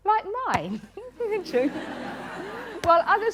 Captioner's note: laughter